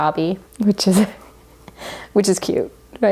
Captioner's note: laughs